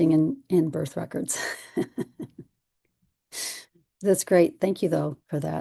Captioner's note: laughter